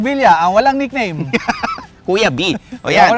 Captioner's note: laughs